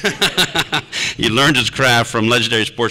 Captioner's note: laughter